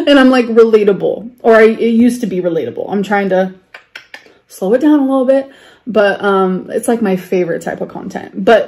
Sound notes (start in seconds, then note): 3.7 clicks tongue